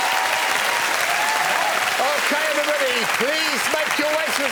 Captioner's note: cheering and applause